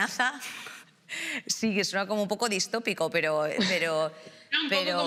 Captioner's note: laughter